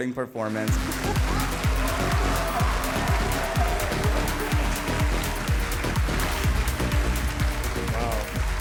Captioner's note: cheerful music; audience cheering